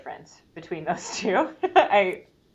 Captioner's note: laughs